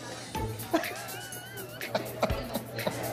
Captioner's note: laughter